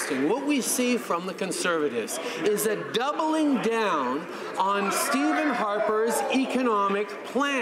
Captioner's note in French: voix de l'interprte